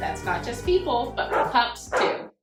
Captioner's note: dog barking